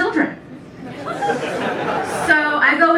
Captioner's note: laughter